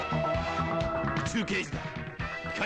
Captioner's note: non-english speech